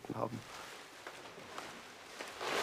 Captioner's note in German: Rascheln